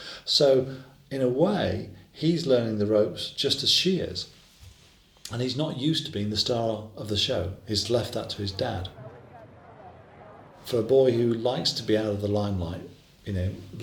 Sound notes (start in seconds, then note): 7.8 people chattering